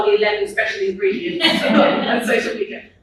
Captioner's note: audience laughs